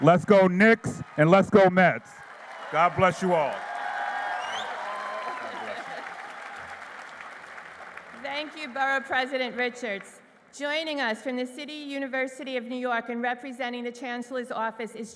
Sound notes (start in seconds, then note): 4.2 applause